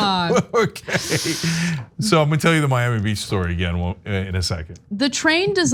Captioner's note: laugh